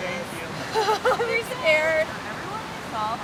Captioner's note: laughs